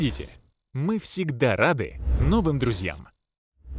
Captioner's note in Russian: звук колокольчика